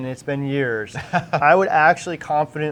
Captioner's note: laughter